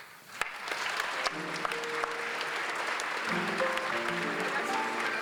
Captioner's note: applause